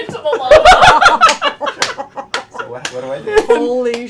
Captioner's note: laughter